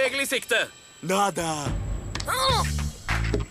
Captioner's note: grunts